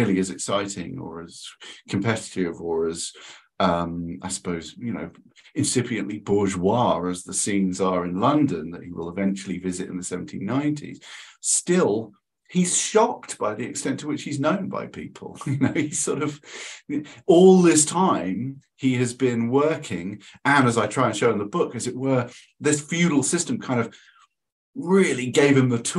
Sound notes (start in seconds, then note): 15.3 chuckles